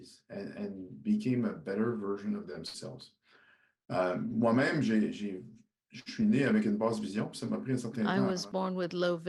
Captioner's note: speaking french